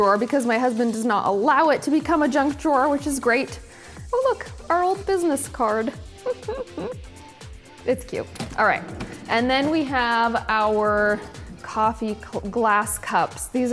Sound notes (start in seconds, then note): 6.2 laughs